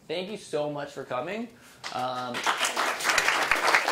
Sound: applause

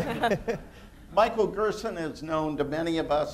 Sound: laughter

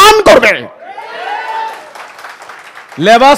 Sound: clapping

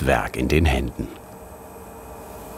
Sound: machine whirring

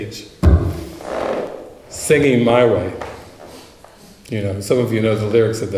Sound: sound of hand hitting microphone

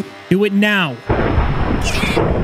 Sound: thunder

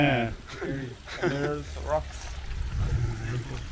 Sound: laughing

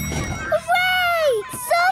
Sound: dinging

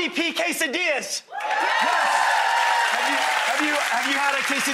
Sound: audience cheers

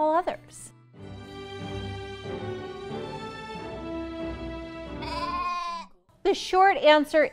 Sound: sheep baaa!

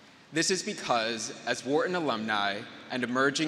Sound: none

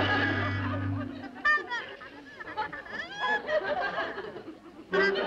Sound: horn imitating jabbering

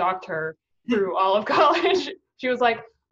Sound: laughing

